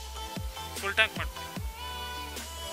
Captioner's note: in Kannada